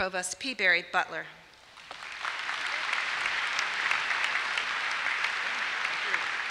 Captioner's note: applause